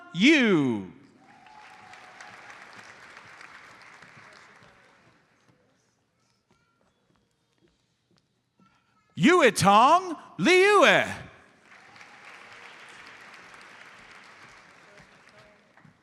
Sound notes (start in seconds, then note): 1.4 audience applauds; 11.8 audience applauds